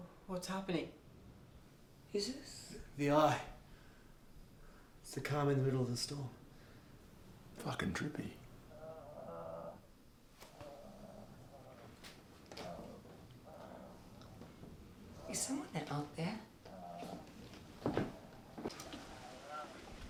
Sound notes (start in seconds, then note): 9.8 George moaning